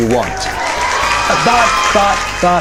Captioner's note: cheers